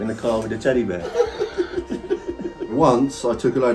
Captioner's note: both laughing